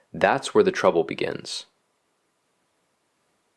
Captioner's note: pause